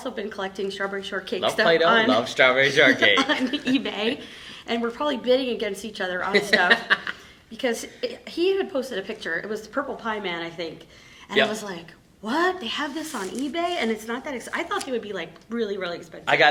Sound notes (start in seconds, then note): 7.3 laughing